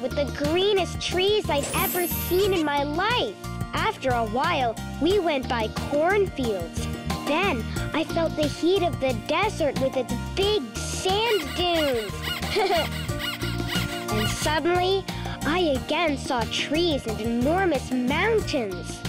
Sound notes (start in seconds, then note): 12.8 squeaking; 13.0 laughs